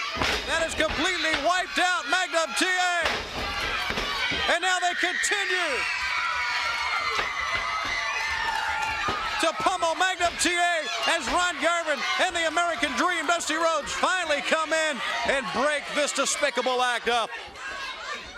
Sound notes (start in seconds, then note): 3.9 crowd cheering; 10.3 crowd chatter